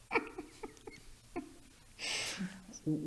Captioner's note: laughing